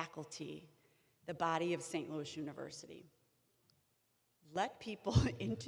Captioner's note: chuckling